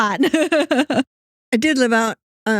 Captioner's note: both Laughing